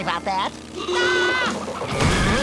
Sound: screaming

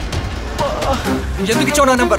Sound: groans

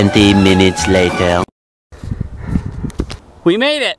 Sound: voiceover

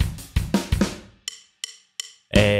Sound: deep voice

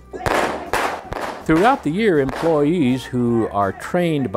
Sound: gunshot

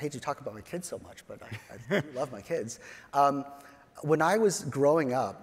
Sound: chuckles

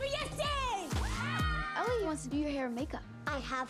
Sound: cheering

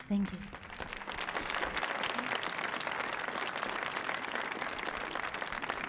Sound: audience cheering

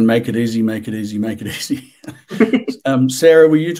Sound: laughing

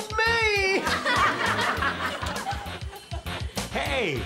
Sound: all laughing

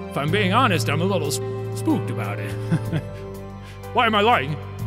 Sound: chuckles

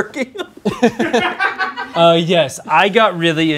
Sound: laughs; group laughing

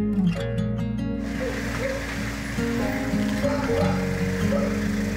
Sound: car engine roaring

